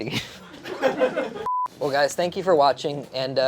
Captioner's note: beep